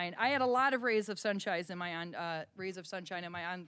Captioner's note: none